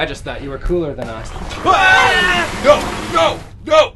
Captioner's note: all scream